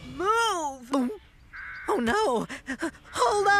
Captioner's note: gulps!